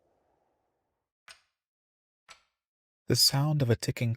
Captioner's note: clock ticks